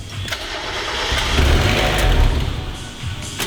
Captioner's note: 90hp beast-of-an-engine roars to life